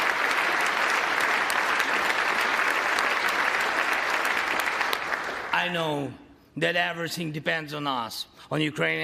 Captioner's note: applause